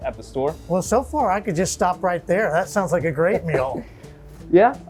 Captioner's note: laughs